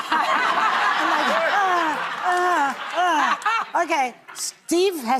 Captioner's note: audience laughing